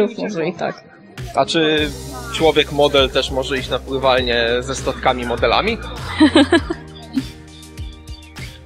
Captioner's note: laughter